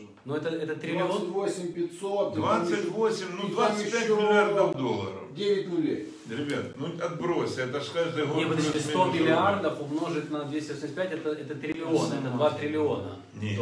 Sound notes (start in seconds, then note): 1.2 voice-over